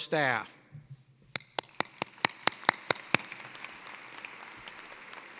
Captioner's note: applause